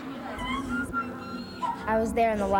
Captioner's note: wailing in pain